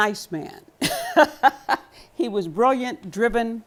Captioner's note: laughter